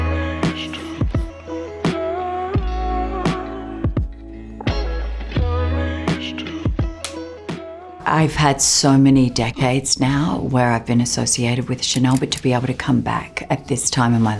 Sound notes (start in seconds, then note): 0.1 uplifting music; 7.0 clapperboard shuts